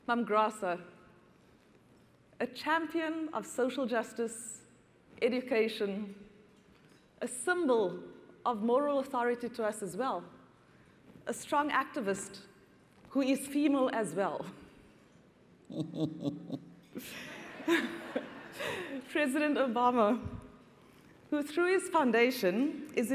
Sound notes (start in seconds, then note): 15.6 Graça Machel laughs; 17.1 audience laughs